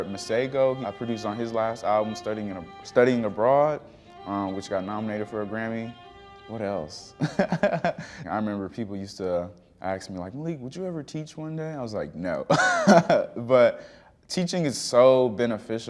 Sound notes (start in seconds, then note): 7.2 laughing; 12.5 laughing